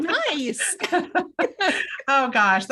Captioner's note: both laugh